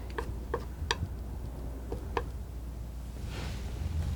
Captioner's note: scratching